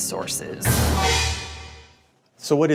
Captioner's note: shocking dramatic effect